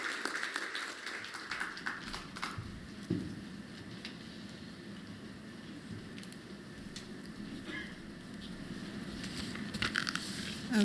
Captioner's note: applause